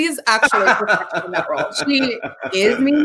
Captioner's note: laughs